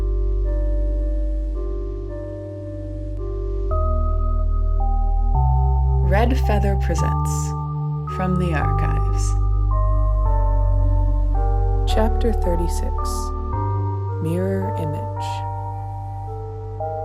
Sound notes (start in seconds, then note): none